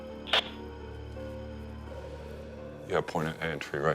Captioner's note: static buzzing